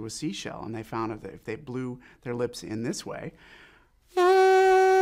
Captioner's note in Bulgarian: свирене с уста